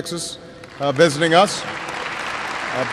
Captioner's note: applause